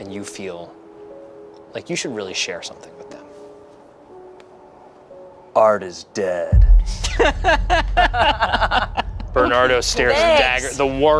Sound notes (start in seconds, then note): 6.8 group laughs